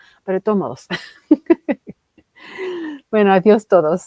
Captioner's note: ríe